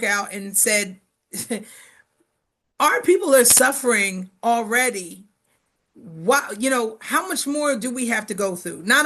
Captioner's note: chuckles